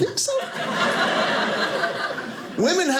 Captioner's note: audience laughing